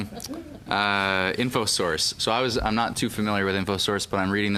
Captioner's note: laughter